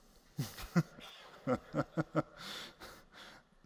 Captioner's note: laughs